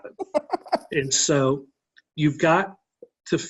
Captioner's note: laughing